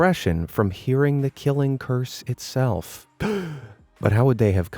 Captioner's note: gasp